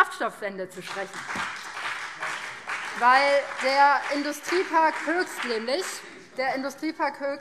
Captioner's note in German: Beifall BÜNDNIS 90/DIE GRÜNEN